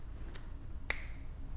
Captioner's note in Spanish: Chasquido